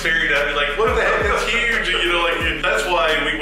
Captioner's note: laughing